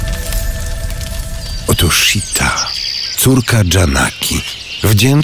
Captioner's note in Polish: śpiew ptaków w tle